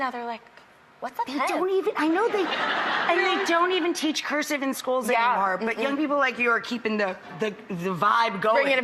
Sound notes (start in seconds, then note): 2.2 audience laughs